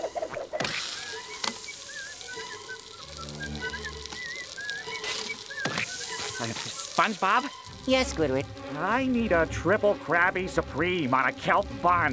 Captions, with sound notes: [sizzling] [whistling] - SpongeBob. - Yeah, Squidward? I need a Triple Krabby Supreme on a kelp bun.